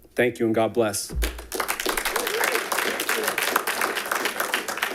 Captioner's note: all clapping